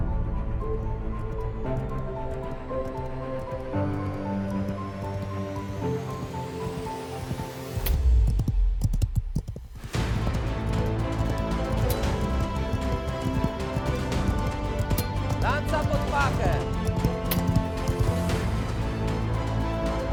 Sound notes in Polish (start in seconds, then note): 0.3 coraz głośniejszy odgłos galopu; 11.7 uderzenia metalu o metal